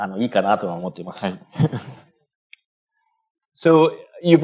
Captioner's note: speaking japanese